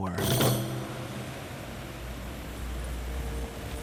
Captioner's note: waves crashing on shore